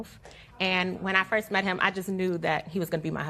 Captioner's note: spectators murmur